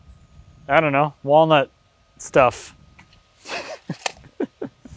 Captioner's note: laughs